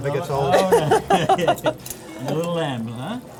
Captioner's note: laughing